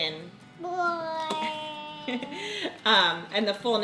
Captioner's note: baby cooing